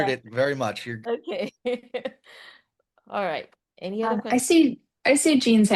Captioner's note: laughs